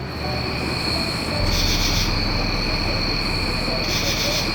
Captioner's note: upbeat music; insects chirping